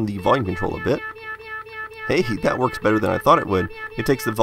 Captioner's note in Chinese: 喵喵喵喵喵喵喵喵喵喵喵喵喵喵喵喵喵喵喵喵喵; 喵喵喵喵喵喵喵喵喵喵喵喵喵喵喵喵喵喵喵喵喵